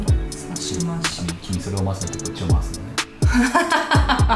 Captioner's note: laughs